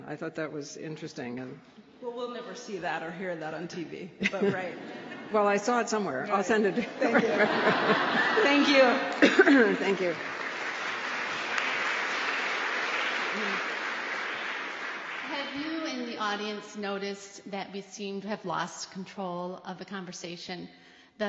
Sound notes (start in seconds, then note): 6.6 laughter; 10.1 applause